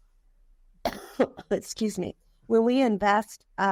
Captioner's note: coughing